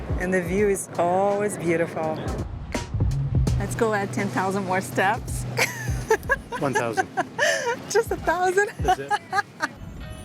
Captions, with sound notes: and the view is always beautiful. Let's go at 10,000 more steps. [laughs] - One thousand. - Just a thousand? - That's it.